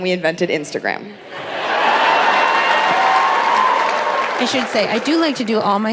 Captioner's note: audience applauding